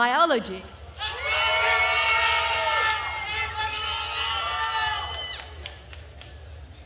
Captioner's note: attendees cheering and applauding